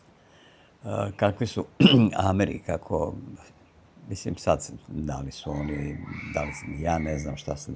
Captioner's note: coughs